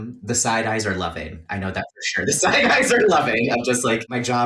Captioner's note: laughs